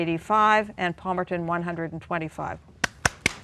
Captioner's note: applause